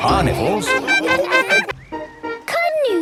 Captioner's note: laughing